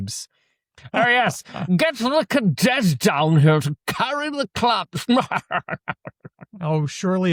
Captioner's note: laughs